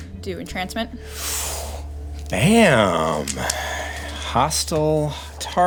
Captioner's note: breathes in sharply